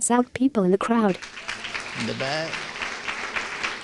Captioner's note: applause